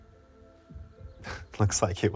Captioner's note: chuckles